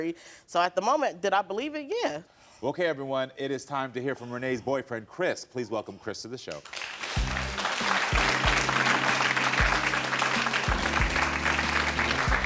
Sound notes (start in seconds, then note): 6.6 audience applauds; 7.0 upbeat music